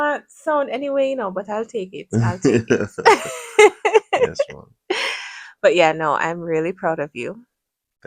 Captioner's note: laughter